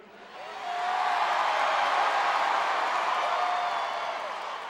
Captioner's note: crowd cheering